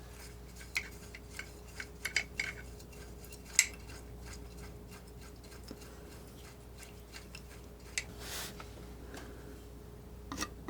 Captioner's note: scratching